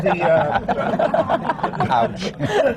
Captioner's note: laughter